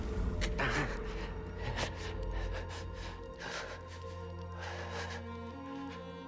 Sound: shivering breaths

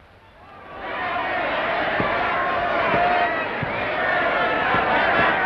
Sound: cheering, crowd noises

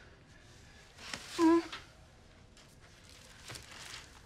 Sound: groans

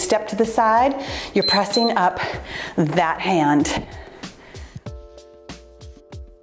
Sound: timer beeps; cheerful music

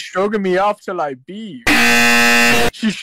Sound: 𝐄𝐗𝐓𝐑𝐄𝐌𝐄𝐋𝐘 𝐋𝐎𝐔𝐃 𝐈𝐍𝐂𝐎𝐑𝐑𝐄𝐂𝐓 𝐁𝐔𝐙𝐙𝐄𝐑

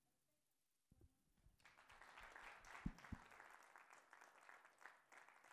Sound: applause

